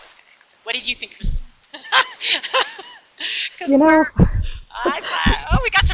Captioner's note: laughs